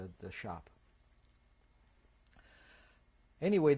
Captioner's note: pauses for 3 seconds